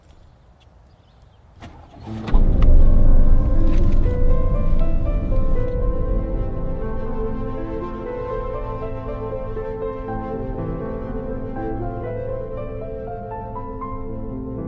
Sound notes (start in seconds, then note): 1.5 engine starts; 3.7 eerie piano music